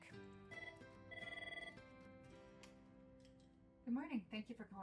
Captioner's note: phone ringing